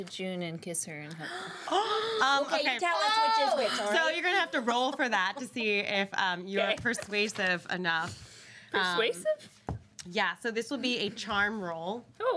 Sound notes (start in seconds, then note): 1.2 girls gasping